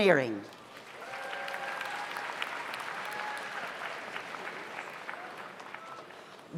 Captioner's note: audience applauds; audience cheers